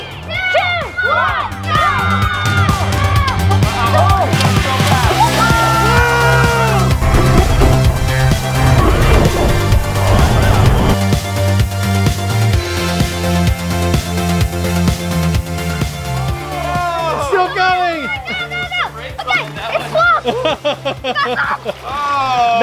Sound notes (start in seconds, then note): 2.5 cheering wildly; 5.6 groaning; 6.9 upbeat, lively music; 21.0 chuckles